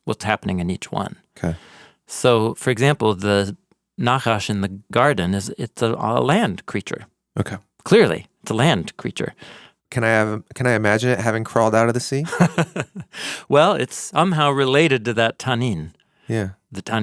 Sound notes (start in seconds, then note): 12.2 chuckles